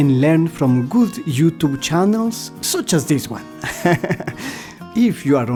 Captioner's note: laughter